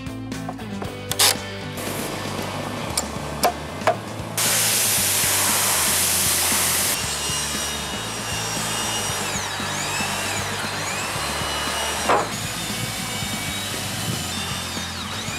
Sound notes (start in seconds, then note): 7.2 electric sander